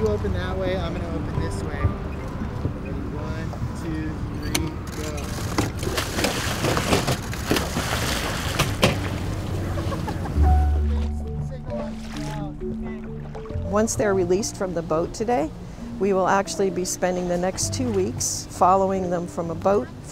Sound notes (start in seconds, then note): 5.6 water splashes